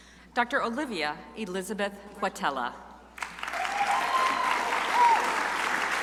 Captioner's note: crowd applauding